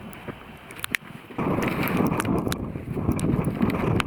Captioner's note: strong wind